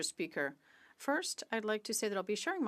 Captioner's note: speaking French